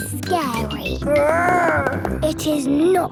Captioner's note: growls